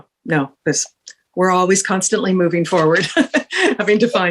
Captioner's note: laughs